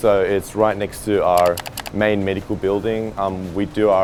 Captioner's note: clicking